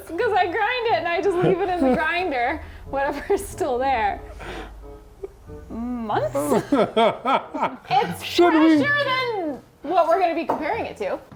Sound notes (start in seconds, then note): 5.7 laughs